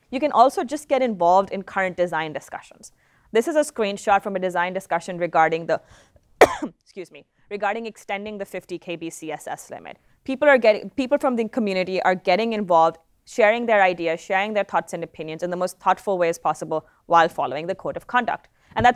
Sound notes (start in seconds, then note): 6.4 coughs